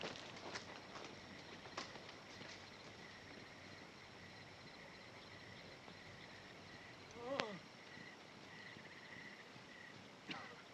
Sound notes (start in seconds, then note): 7.2 groaning